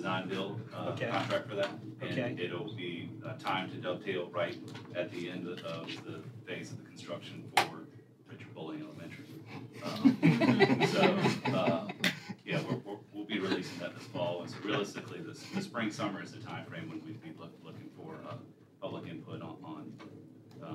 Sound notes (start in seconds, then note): 13.6 laughter